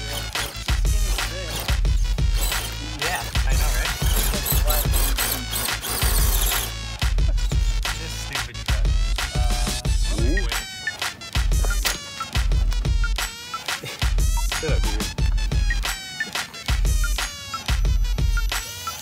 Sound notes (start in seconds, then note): 13.1 laugh